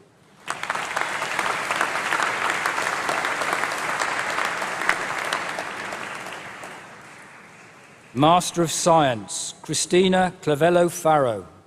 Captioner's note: applause